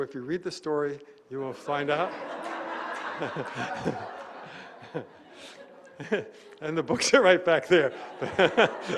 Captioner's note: laughter